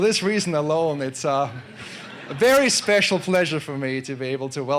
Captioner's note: laugh